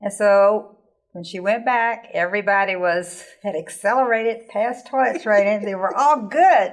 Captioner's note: laughing